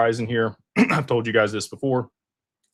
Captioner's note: clears throat